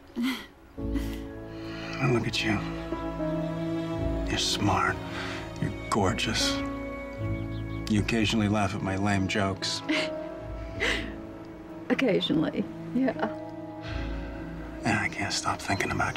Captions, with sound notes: And look at you. You're smart, You're gorgeous, You occasionally laugh at my lame jokes. [laughs] Occasionally, yeah. And I can't stop thinking about you.